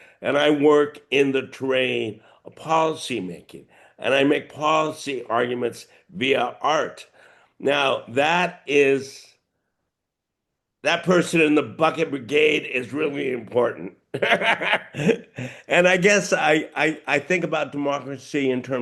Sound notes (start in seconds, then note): 14.1 laughing